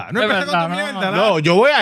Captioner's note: speaking In Foreign Language